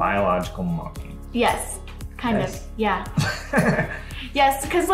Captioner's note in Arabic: يضحك